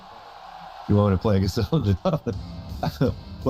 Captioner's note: chuckling